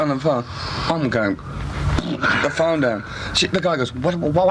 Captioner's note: flatulence sound